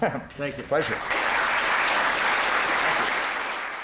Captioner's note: applause